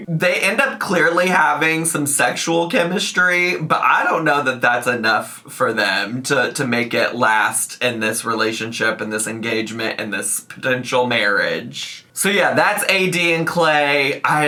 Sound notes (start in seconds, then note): none